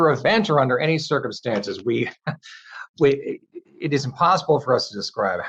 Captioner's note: laughing